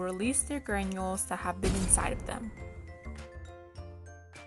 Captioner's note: crashing sound